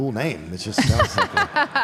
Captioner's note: Michelle laughs